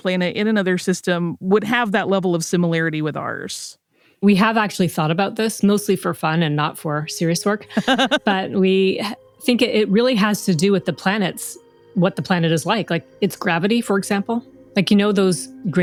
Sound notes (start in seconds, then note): 7.6 laughs